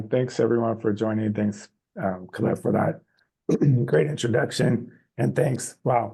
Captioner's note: clears throat